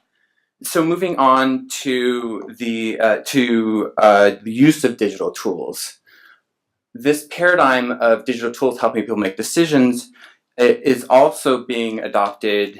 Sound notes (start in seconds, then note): none